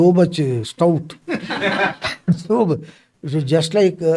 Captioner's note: laughs